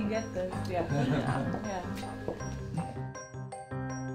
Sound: walking; peppy music

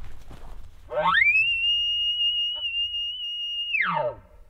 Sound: caller bugling

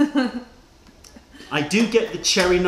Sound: laughter

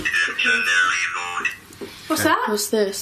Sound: voice from Ovilus

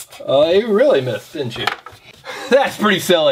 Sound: voiceover

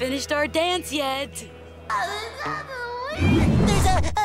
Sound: crying

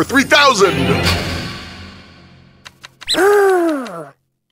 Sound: sonic boom

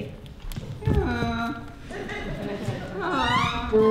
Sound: donkey breys

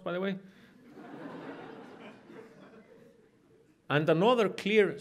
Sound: audience laughs

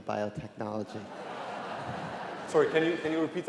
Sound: laughter

